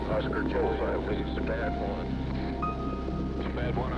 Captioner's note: radio noise